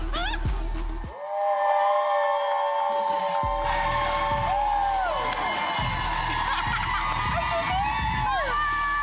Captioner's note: laughter; applause